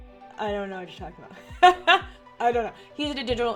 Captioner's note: laughs